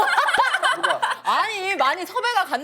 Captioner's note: laughs